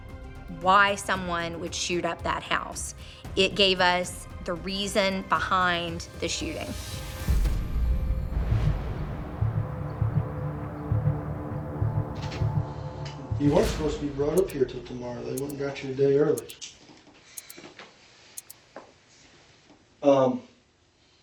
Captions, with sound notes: why someone would shoot up that house. It gave us the reason behind the shooting. [dramatic music fades] [ominous music plays] [clock ticking] Um...